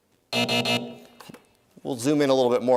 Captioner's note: buzzer